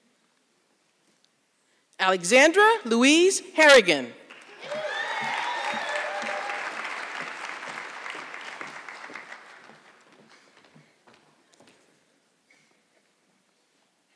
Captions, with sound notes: Alexandra Louise Harrigan. (audience clapping)